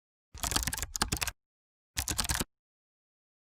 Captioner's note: keyboard sounds